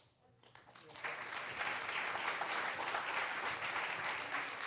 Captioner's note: audience applauds